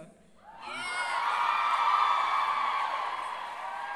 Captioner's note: crowd cheers